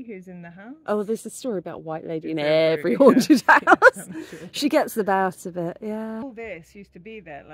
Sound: laughing

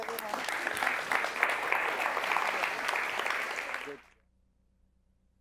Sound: applause

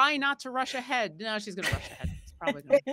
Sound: laughing

